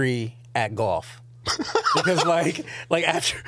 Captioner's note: laughing